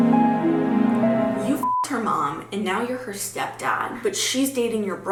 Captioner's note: mysterious music; beep